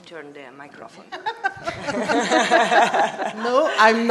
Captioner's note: laughter